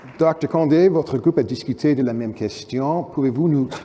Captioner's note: speaking french